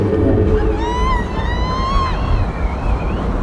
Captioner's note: wind howling